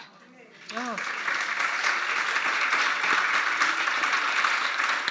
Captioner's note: audience clapping